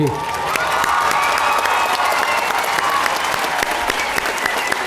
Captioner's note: audience applauding